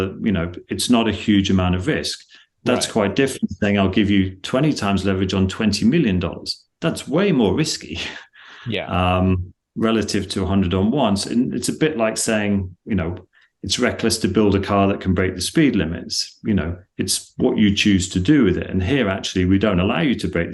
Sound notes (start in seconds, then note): 7.9 laughs